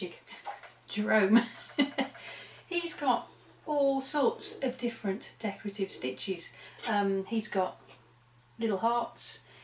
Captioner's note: laughter